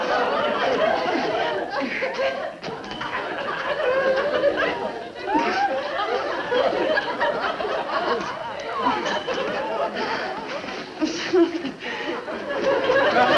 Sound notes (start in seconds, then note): 5.5 Joan grunting